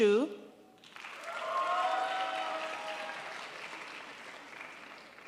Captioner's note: crowd applauds